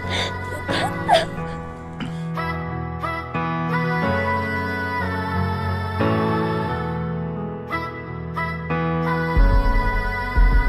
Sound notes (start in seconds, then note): 1.8 Aguni groans